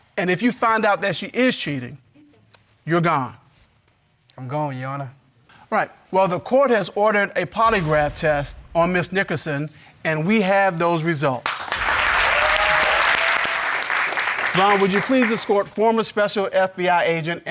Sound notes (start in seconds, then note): 11.4 audience cheering, applauding